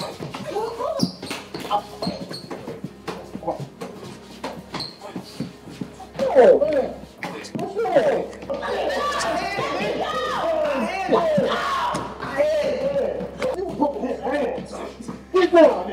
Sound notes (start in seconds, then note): 0.0 Biggie groaning; 5.9 men groaning